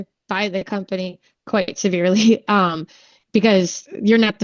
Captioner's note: laughing